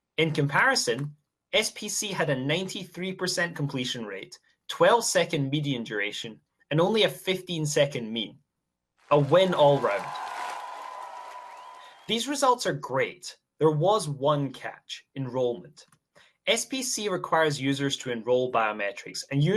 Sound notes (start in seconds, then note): 9.1 applause